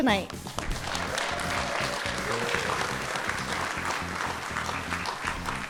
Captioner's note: audience cheers and applauds